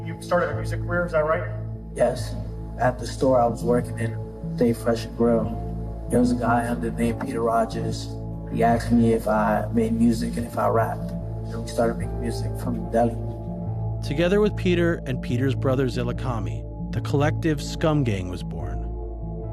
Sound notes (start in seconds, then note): none